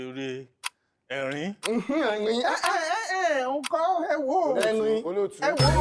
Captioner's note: laughter